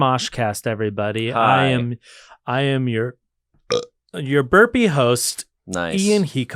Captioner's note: burps